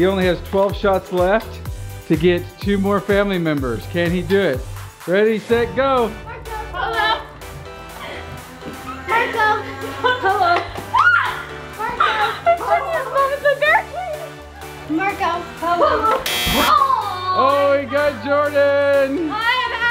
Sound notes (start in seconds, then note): 11.1 screams; 16.2 buzzer buzzes